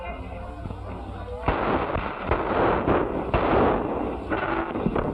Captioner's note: gunshots